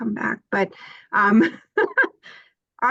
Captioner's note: laughs